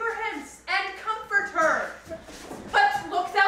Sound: none

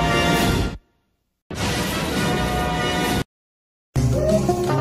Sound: electricity zapping as rousing fanfare plays; snippeted music playing

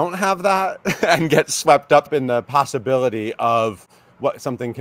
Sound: laughs

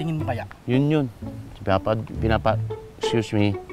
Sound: stuttering

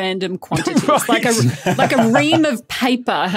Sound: laugh

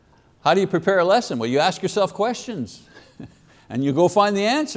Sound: chuckles

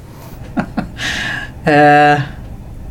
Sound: laughs

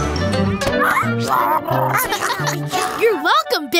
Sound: squeaking

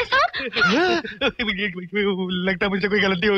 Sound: stammering

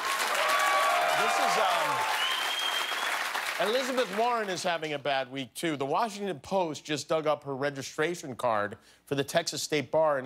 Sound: cheers and applause

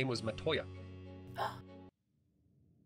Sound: gasp

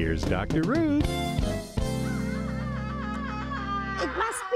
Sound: creature shrieking

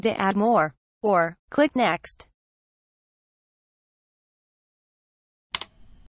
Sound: click sound

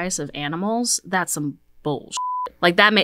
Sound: beep

